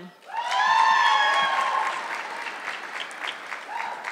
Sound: audience clapping

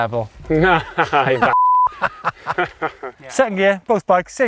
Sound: beep; laughing

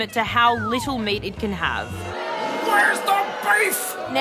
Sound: jeering

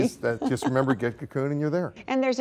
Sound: laughter

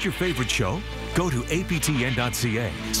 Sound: none

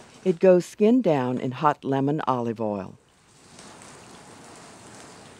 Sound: voiceover

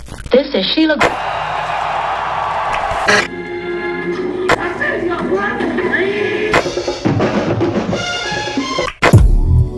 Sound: static; loud tv noises

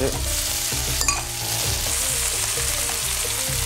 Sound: steak sizzling

